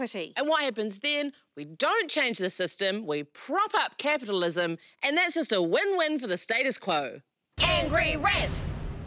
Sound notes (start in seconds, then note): 7.3 chanting; 7.6 pounding sound effects